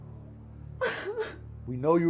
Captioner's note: Julie sobs